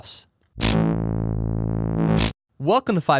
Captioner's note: electronic buzzing